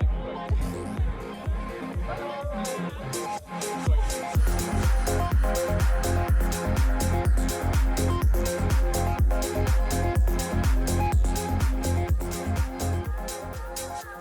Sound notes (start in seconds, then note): none